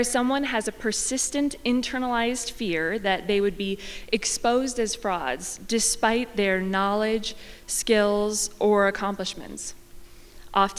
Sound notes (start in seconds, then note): none